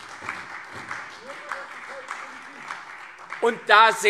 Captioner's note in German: Beifall SPD, CDU und Freie Demokraten